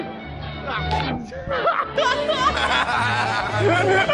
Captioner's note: laughing